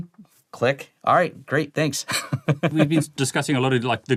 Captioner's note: chuckles